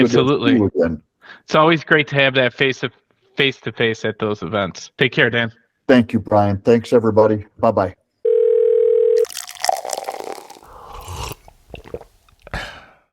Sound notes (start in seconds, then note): 8.2 phone ringing; 9.2 liquid pouring; 10.9 person sipping and swallowing